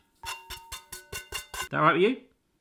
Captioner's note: scrapes bowl